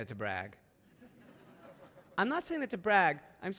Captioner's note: audience laughing